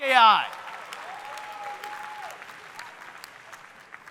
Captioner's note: audience cheering